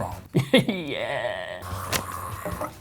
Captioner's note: laughs